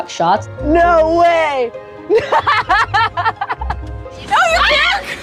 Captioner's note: laughing